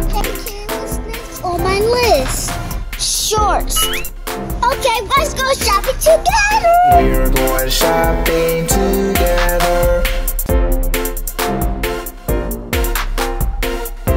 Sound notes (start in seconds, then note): 3.8 spring bouncing; 10.4 playful children's music